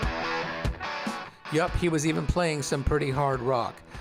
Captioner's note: makes rock guitar noise